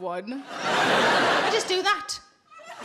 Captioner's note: audience laughing